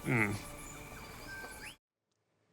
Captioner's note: birds chirping